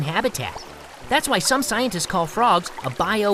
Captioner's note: heavy rain